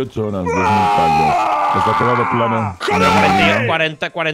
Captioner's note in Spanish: grita